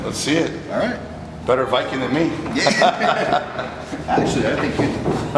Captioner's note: laughs